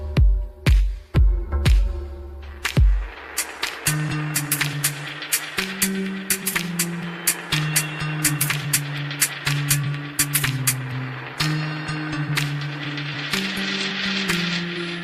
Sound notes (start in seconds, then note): 0.7 applause